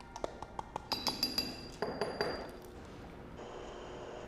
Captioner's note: glass clinking